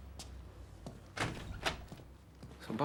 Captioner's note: door opens